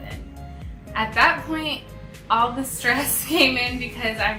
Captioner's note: laughs